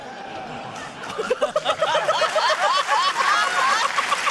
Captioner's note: laughter, applause